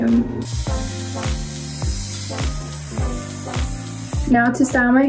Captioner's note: hairdryer whirring